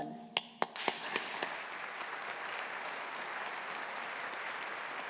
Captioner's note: audience applauding